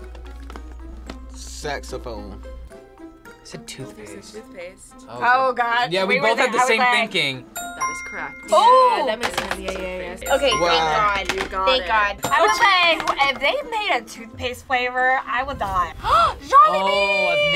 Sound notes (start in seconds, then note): 7.5 chime ringing; 16.6 gasps